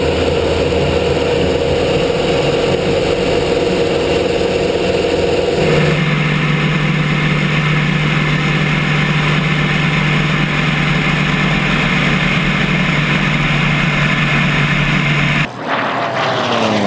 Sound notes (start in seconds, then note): 2.2 engine roaring